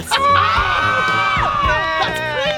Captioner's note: campers cheering